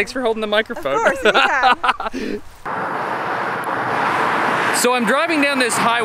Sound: laughs

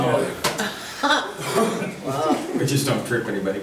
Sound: laughing; murmurs

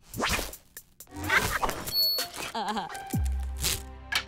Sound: laughing

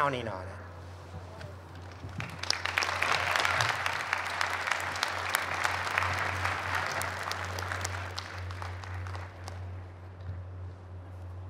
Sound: applause

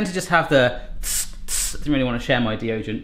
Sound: aerosol spraying impersonation

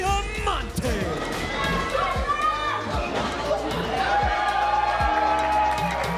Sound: crowd cheers

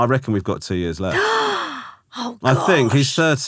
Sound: gasping

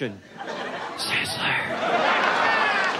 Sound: whispering; audience laughs

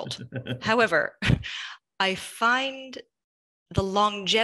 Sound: laughs

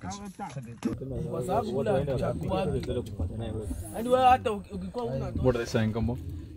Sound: men speaking foreign language

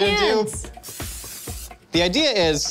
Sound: spraying

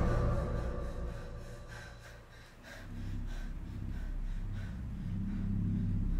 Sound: heavy breaths

